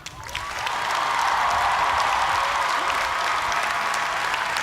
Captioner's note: cheers and applause